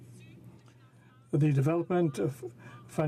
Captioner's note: speaking in french